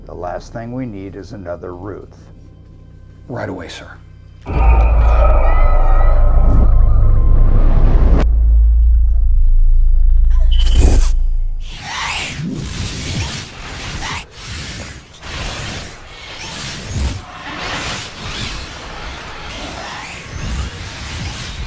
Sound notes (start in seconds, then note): 4.4 dramatic music; 4.4 screaming